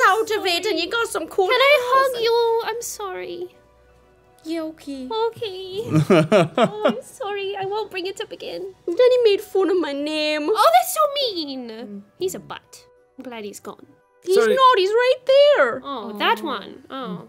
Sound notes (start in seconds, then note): 5.8 laughing